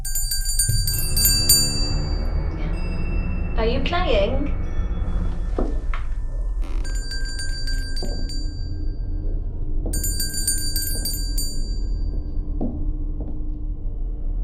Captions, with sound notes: [Bell rings] Are you playing? [Multiple bells ring]